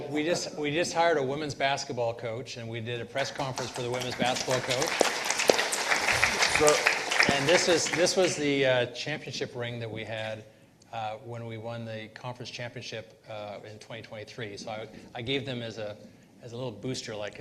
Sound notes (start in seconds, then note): 5.4 participants applauding